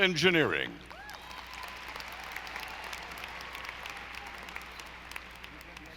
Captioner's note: audience applauding